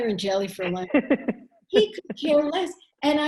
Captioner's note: chuckle